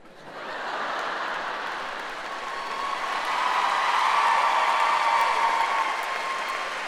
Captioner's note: audience laughing; audience applauding